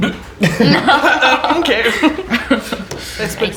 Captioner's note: puzzled laughter